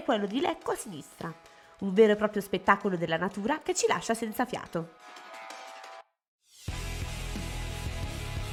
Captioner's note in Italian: Applauso